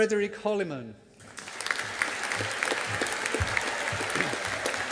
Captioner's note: audience applauding